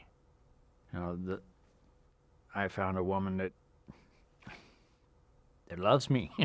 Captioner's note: chuckles